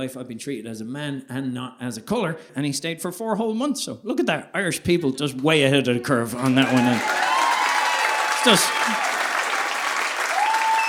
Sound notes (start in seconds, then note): 6.3 audience applauding